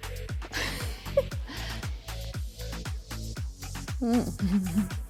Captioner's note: host giggling